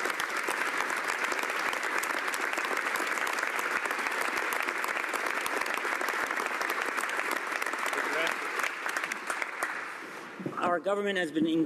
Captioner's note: applause